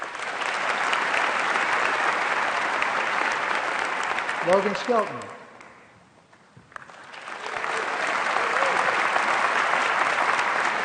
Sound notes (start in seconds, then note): 6.6 applause